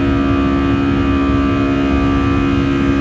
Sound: engine humming

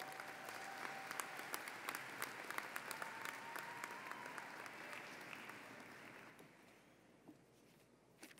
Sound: applause

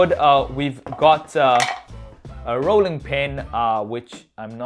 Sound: spoon clatters

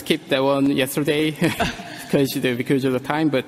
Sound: both laughs

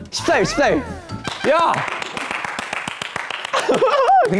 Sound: applause

